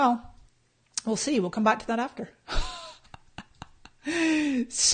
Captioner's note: laughs